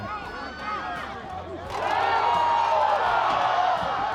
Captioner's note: crowd cheering